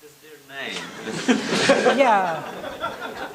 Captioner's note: audience laughs